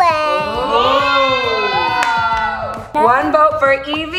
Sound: cheering

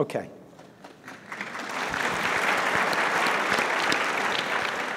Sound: audience claps

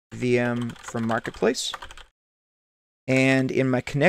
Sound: keyboard typing

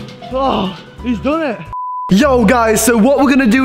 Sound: beep

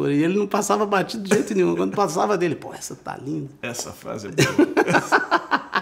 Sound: laughs

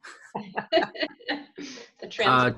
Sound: laughing

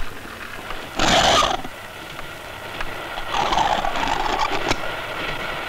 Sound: door creaks

